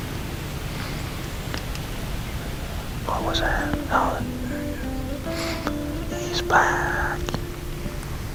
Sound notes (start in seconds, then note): 0.0 soft music, light wind; 2.6 sound of whispering